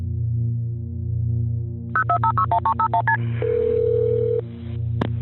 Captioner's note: phone dialing